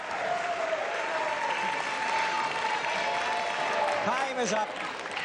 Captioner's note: cheering